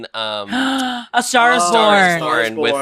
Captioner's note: gasp